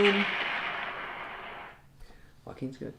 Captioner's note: explosion sound effect